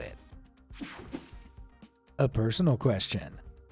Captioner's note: screen whooshing